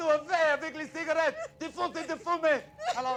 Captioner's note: speaking foreign language